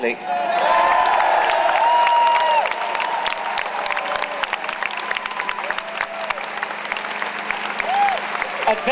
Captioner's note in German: Jubeln